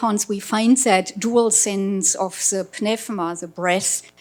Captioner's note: speaking foreign language